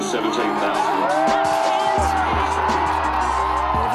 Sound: cheering

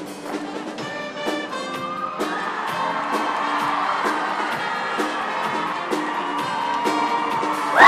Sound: applause

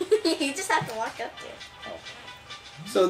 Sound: chuckles

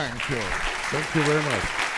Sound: audience applauds

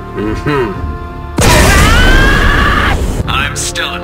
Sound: s m a s h

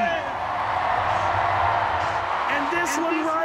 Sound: fans cheer

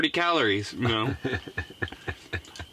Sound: laughing

